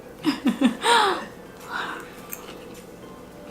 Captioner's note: laughs